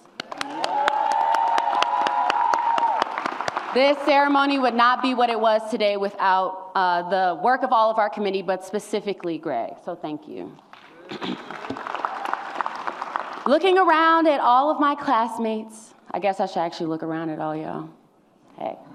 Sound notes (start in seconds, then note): 0.2 audience cheers; 11.0 clears throat; 11.5 audience cheers